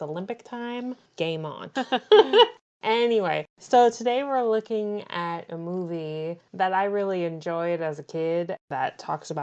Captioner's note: laughs